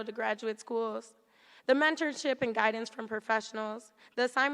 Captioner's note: none